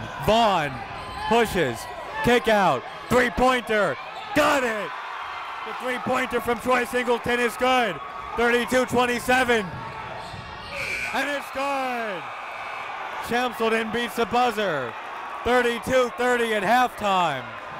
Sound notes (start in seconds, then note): 4.1 crowd cheering; 10.8 buzzer goes off